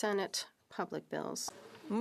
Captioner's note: speaking French